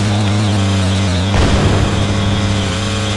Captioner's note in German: Krachen